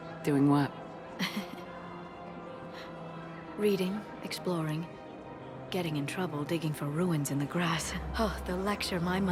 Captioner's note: laughs